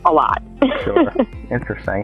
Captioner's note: she chuckles